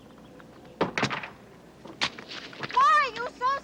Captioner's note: door slams